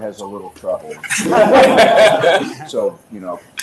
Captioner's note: audience laughs